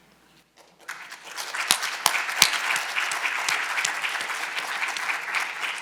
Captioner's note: audience applauding